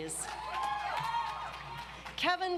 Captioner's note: audience applauds